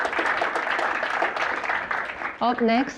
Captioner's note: applause